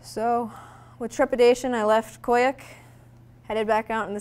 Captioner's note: none